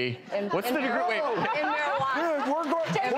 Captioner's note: audience laughs